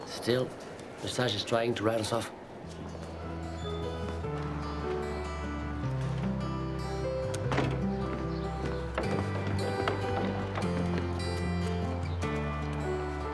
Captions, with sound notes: Still, Lesage is trying to write us off. (warm music) (birds chirping)